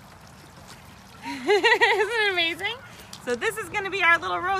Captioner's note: laughing